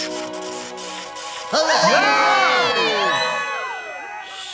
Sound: cheering

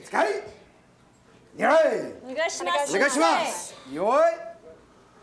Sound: speaking foreign language

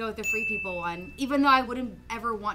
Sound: bell rings

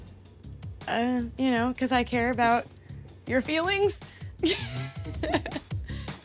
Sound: laughing

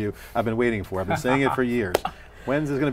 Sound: laughing

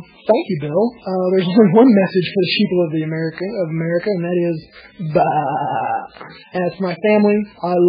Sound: laughs

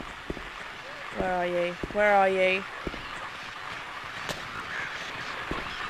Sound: loud radio static

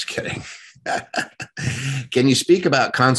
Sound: laughing

